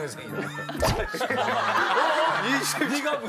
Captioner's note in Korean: 찰싹